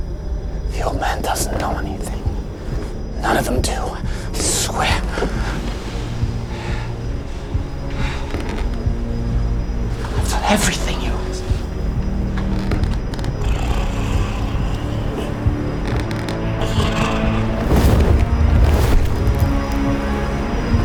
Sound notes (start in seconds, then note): 6.6 Kieran breathing heavily; 6.6 tense music; 8.4 floorboards creaking; 8.4 tense music; 12.7 steps tap slowly closer; 13.1 creature growling; 16.6 creature whooshes; 17.7 tense music; 20.6 tense music continues